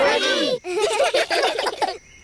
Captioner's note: children giggle